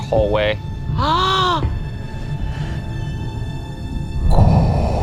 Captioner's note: gasps; imitates pressurized breathing